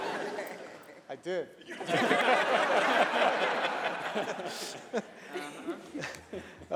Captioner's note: laughter